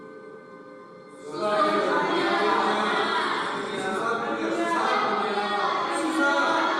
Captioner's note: people speaking in foreign language